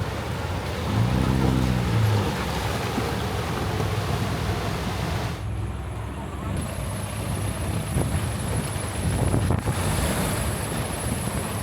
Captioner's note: engine revving